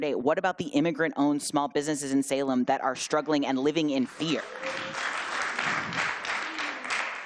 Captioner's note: applause